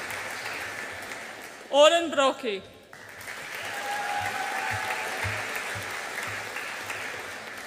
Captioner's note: audience applauds and cheers